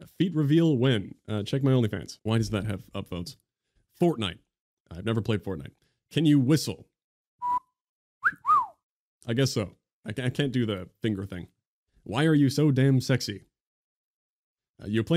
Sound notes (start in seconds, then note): 8.2 cat call whistle; 8.2 whistle